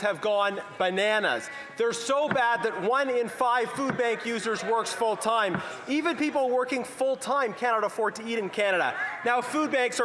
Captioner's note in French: voix de l'interprète